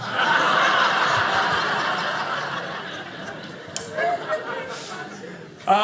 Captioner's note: audience laughing